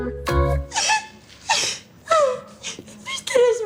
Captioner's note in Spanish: Sollozos